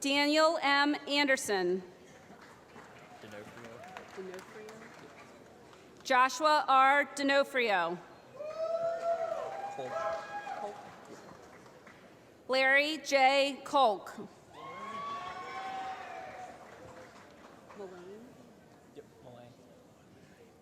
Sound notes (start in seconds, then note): 2.2 applause; 9.0 applause; 14.8 applause